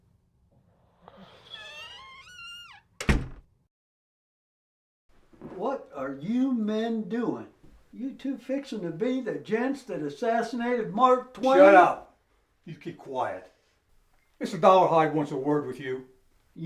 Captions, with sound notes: (door creaks) - What are you men doing? You two fixing to be the gents that assassinated Mark Twain? - Shut up. You keep quiet. Mr. Dollarhide wants a word with you.